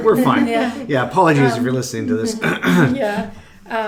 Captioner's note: clears throat